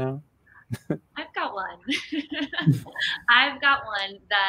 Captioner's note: laughs